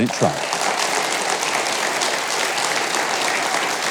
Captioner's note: audience cheers